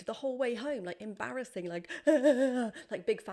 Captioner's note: sobs